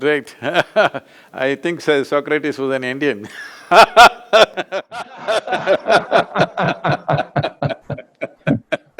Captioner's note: both laugh